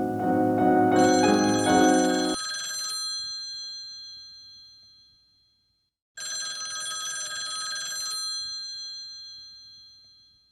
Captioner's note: phone ringing